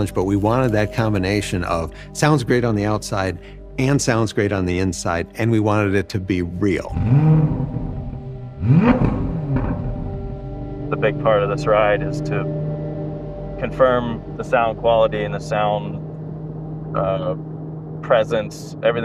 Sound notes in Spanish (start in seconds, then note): 6.7 engine sounds